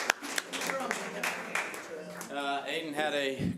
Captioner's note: audience applause